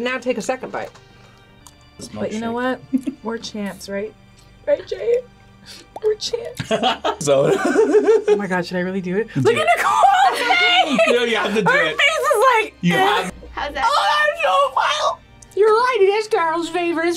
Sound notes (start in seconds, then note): 2.5 laughs; 6.6 laughs